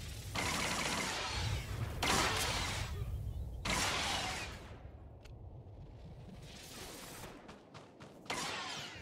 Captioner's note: gunshots